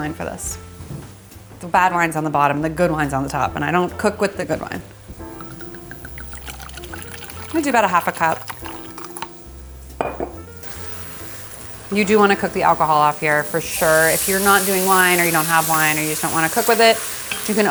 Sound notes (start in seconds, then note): 9.9 bottle thuds